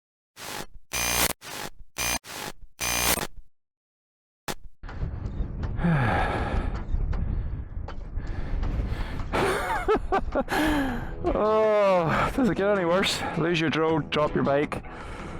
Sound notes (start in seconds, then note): 0.9 sigh; 1.8 laughter